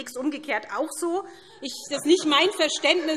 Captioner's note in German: Heiterkeit SPD und Freie Demokraten